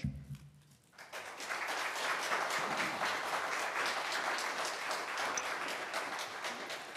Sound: applause

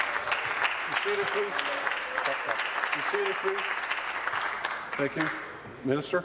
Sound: applause

